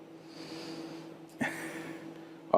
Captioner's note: laughs